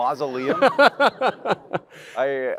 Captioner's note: laughter